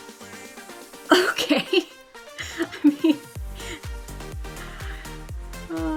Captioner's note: upbeat music; laughs